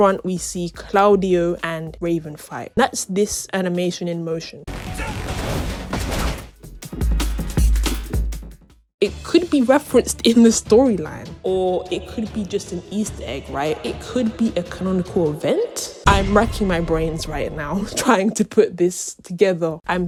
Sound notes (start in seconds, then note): 11.4 echoed voice